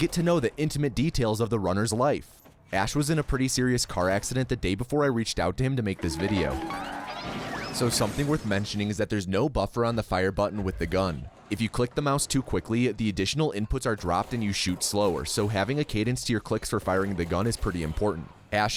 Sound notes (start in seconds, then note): 6.0 cartoon SFX; 6.1 car crash SFX